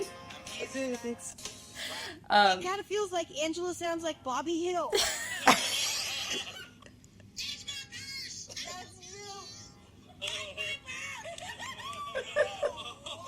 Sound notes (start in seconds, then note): 10.1 laughing